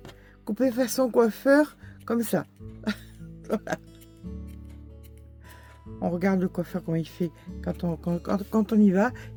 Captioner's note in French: rires